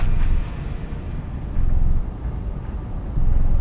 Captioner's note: deep rumble in the distance